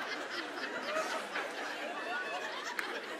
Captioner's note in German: Anhaltendes Lachen